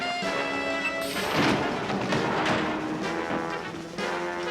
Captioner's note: thudding; tense music